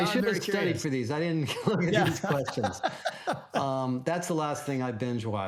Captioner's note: laughs